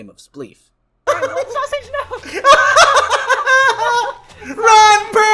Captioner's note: laughs